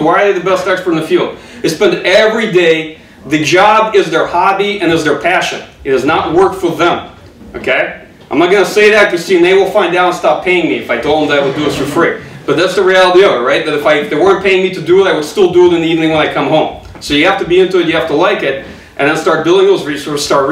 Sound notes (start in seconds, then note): 12.1 audience chuckling